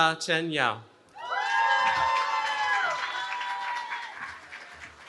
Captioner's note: cheering